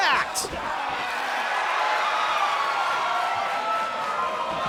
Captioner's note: cheers and applause